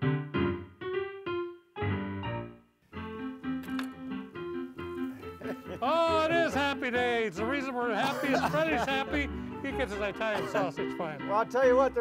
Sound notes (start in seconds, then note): 3.8 honky-tonk piano music; 5.0 laughing